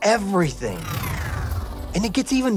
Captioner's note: electricity whirring